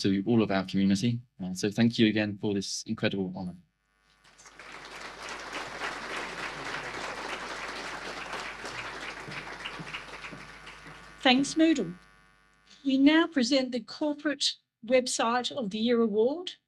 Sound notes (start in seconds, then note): 4.2 audience applause